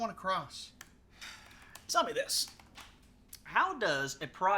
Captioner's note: sighs